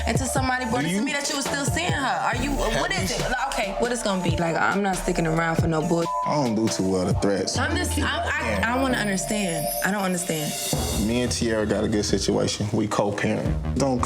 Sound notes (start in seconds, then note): 2.8 overlapping chattering; 5.2 beep